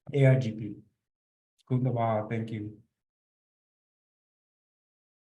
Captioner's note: non-english speech